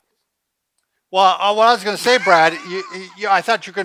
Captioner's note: laughs